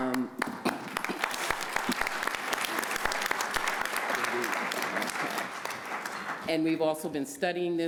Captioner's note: applause